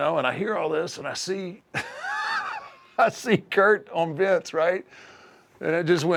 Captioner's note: laugh